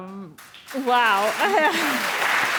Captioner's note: audience applauding; laughs; people applauding